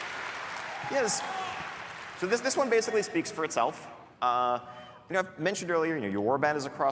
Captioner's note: applause